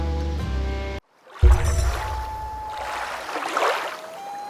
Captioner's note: water rushing, loon calling